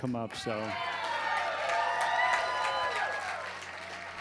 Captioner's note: crowd cheers